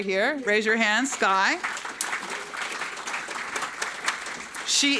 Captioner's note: audience clapping